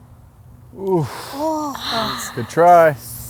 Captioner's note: groans